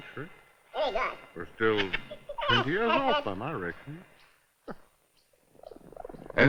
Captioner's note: chuckles